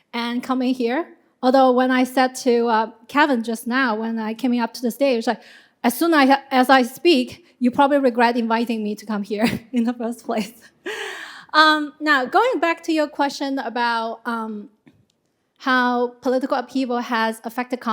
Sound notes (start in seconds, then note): 11.3 chuckles